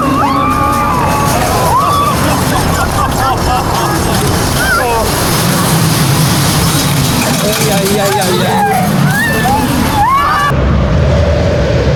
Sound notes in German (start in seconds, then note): 1.5 schreien